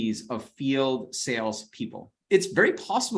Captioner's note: none